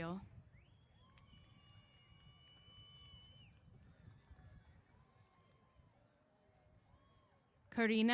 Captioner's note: cheers